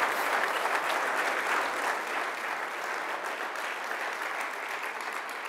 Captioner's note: audience applauding